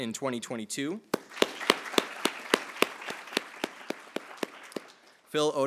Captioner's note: attendees applauding